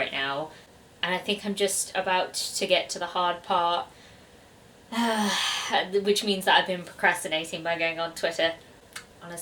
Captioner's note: sigh